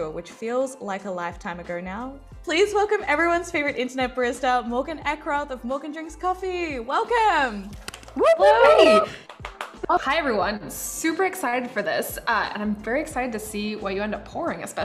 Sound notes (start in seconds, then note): 7.9 cheering and clapping